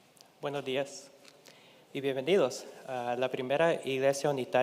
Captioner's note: speaking in Spanish